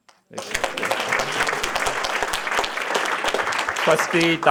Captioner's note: applause